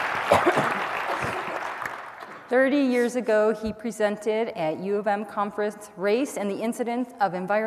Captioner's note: applause